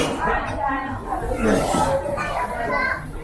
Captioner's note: gross throat-clearing sound